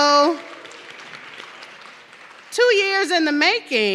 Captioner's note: audience clapping